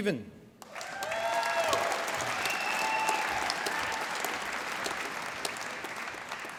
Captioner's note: applause